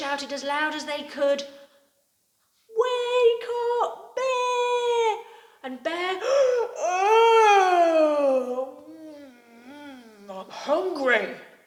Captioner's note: yawns and stretches